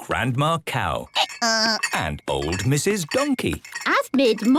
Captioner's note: braying